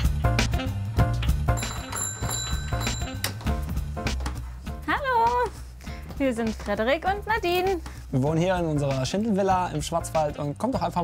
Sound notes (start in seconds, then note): 1.5 doorbell